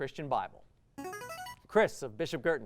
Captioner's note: buzzer